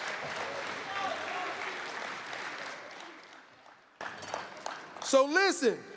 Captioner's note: applause